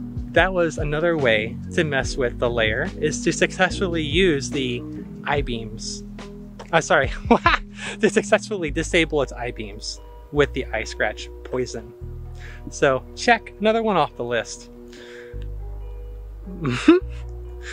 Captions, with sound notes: that was another way to mess with the lair was to successful use the eye beams - I'm sorry HAHA to disable its eyebeams with the eye scratch poison. So check, another one off the list. *chuckles*